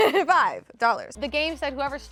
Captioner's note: laughs